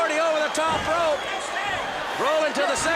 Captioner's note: crowd cheering